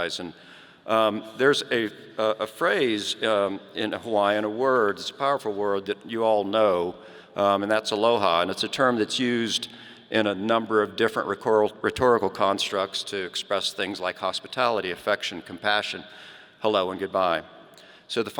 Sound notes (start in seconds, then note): none